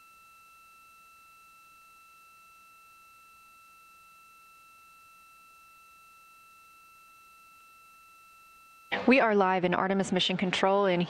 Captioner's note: silence